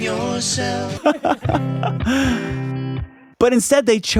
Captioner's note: laughing